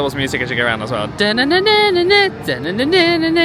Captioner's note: humming